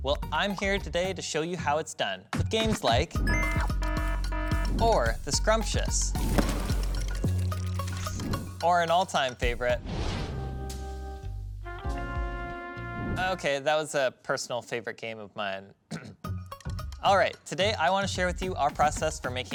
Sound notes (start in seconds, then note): 3.3 alarm ringing; 6.1 cupcakes popping; 10.4 relaxed music; 15.8 clears throat